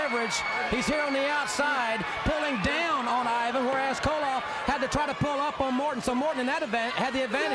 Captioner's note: crowd cheering